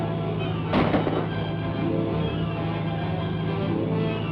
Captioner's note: gunshot; dramatic music